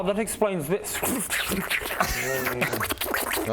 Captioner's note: slobbery tentacle noises